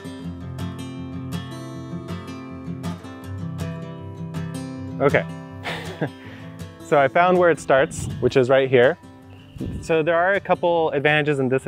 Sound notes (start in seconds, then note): 5.6 laughs